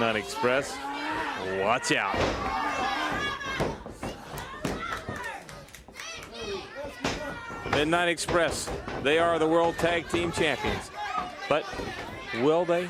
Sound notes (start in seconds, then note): 2.9 crowd cheering; 5.4 crowd chatter